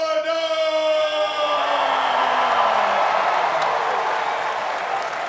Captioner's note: cheering